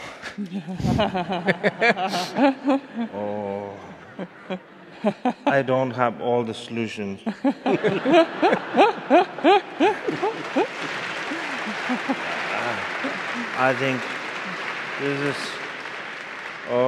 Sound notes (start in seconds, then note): 0.3 laughing; 7.2 laughing; 10.7 audience applauding